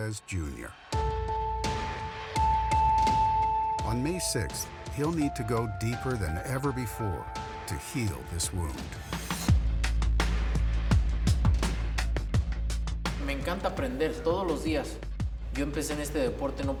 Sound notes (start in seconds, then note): 9.5 Canelo speaks Spanish